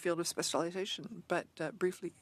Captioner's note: speaking French